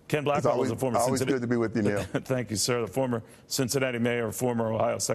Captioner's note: laughter